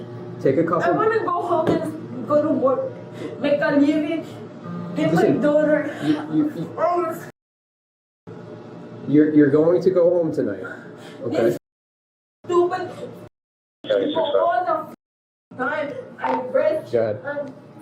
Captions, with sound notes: take a couple— I want to go home and go to work, make a living, - get my daughter - Listen You, you— I'm -- You're going to go home tonight This -- stupid (Radio chatter) - -- people all the -- time I rest,